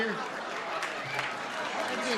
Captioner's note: clapping